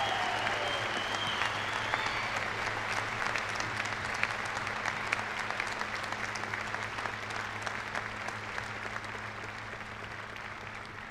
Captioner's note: cheers and applause